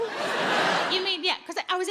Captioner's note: audience laughs